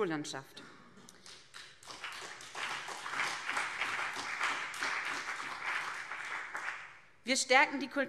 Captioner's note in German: Beifall BÜNDNIS 90/DIE GRÜNEN und CDU